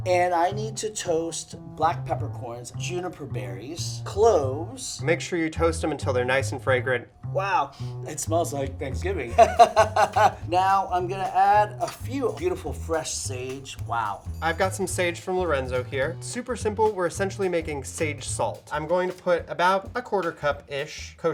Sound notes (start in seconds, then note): 9.3 laughs